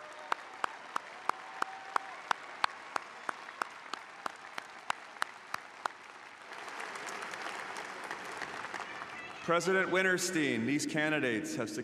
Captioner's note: applause